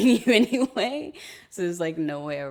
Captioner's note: laughing